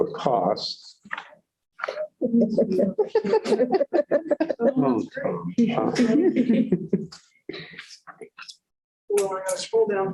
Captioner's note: laughter